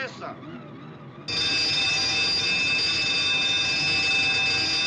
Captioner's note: bell Clanging